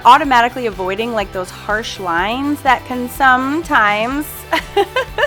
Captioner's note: laughs